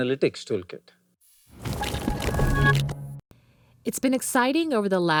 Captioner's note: transition sound effect